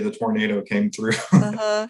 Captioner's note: brief laughter